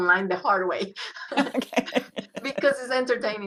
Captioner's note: laughs